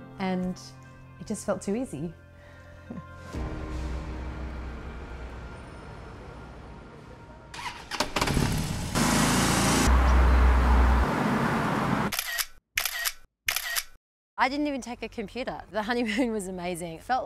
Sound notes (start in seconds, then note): 7.6 motorcycle revs up; 12.8 camera clicking